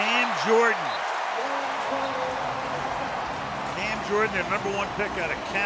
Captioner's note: whistle blows